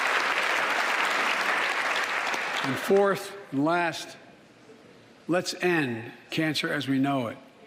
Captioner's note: applause